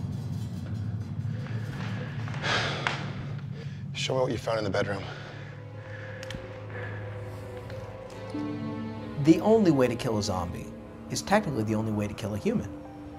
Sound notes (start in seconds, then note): 1.4 sighs